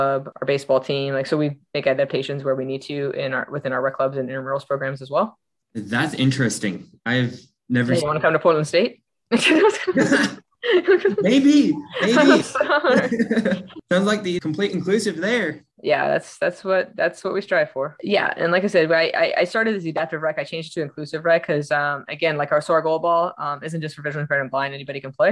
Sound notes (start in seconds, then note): 9.3 laughing